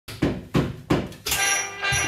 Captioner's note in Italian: bussano alla porta